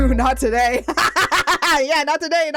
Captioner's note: cackle laugh